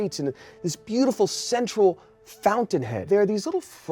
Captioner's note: none